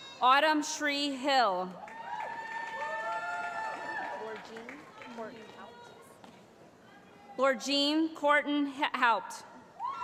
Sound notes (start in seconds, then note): 0.0 cheering; 1.8 cheering